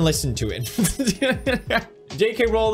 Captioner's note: laughs